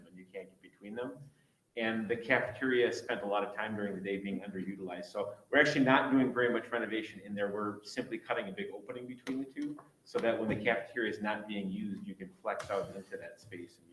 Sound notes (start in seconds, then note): none